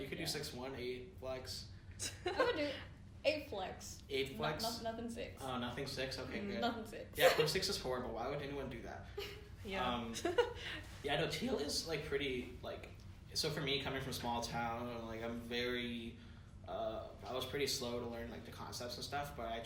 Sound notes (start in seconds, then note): 2.0 laughter; 10.1 giggles